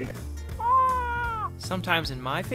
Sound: crying

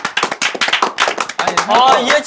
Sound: clapping

